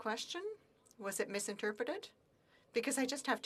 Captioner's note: speaking French